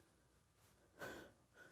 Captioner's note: sniffles